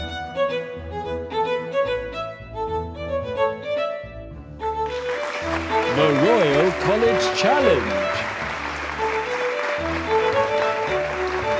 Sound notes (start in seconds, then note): 4.8 audience applauds